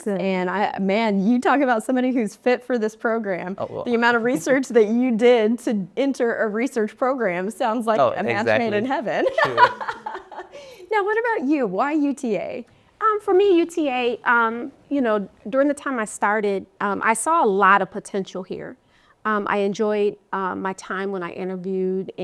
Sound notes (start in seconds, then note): 9.3 laughs